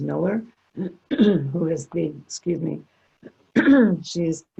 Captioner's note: clears throat